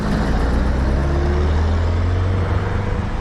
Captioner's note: engine rumble